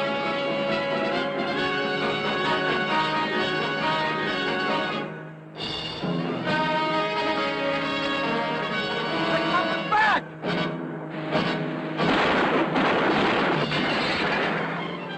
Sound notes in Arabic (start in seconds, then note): 11.9 طلقات نارية